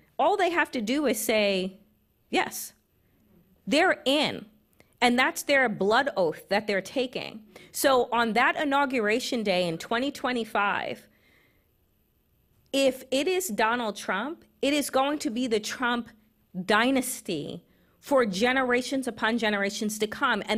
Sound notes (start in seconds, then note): none